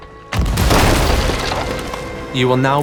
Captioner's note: cannon fire